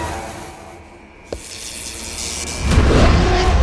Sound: electric whirring

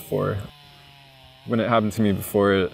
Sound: chainsaw running

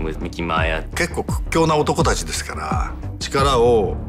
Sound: speaking in japanese

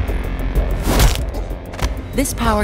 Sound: suspenseful music; whacking

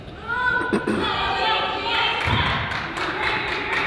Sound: crowd applauds

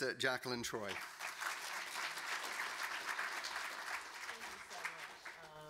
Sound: audience clapping

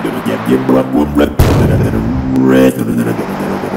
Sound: continues beatboxing

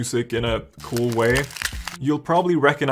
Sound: frost cracking sounds

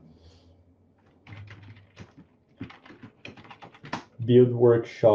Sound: computer keys clicking

